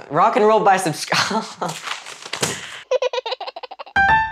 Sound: laughters

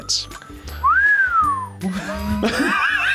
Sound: whistles; both laugh

